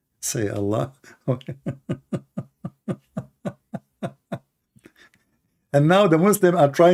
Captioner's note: Ketawa ter